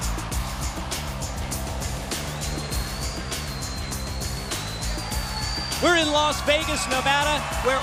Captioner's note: crowd cheering